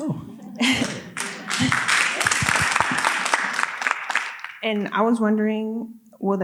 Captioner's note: audience applauding